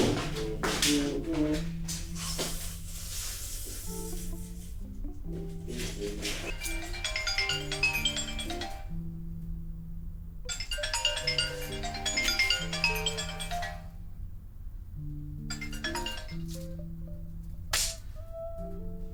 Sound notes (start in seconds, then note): 6.0 phone rings; 10.5 continues ringing